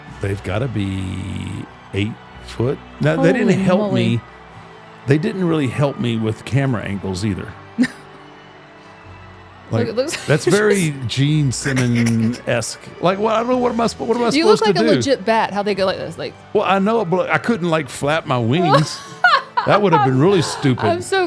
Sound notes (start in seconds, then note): 7.8 host laughs